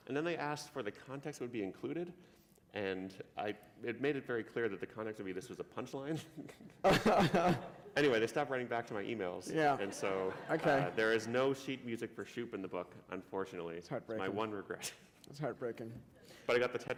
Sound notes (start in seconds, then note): 6.8 laughter; 14.9 chuckle